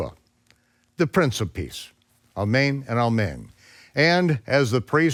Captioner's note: speaks in foreign language